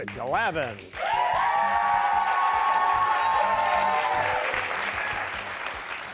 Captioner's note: cheers and applause